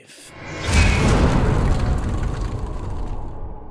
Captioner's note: impact